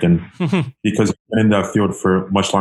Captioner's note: laughs